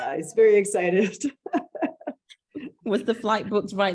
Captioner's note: laughs